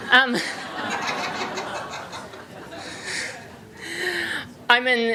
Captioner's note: laughter